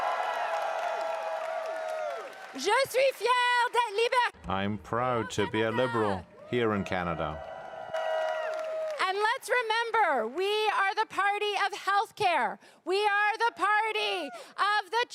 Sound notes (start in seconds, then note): 5.3 cheering and applause